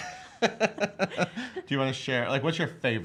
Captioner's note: laughs